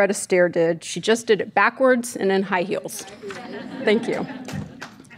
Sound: laughing

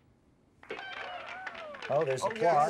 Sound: crowd cheering

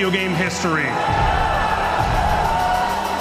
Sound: crowd cheering

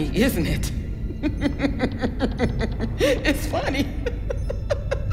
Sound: laughs

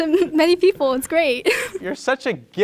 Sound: laughs

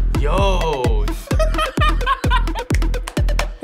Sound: laughs; claps

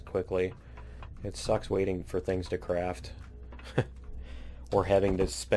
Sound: laughs

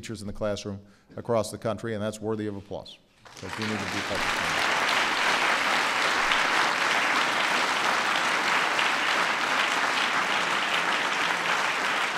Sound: applause

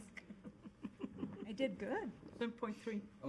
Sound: laughter

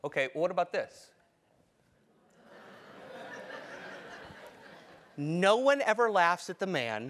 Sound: laugh

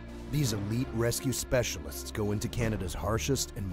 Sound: voiceover

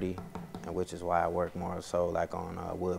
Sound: taps on podium

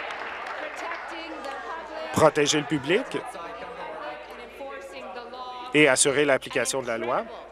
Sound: applause

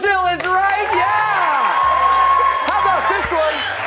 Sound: cheers and applause

